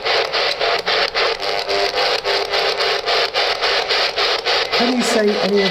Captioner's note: static buzzes sharply